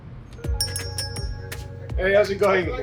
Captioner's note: bell chiming